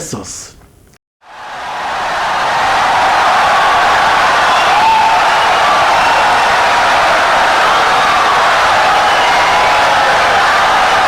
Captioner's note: wild applause and cheering for 17 seconds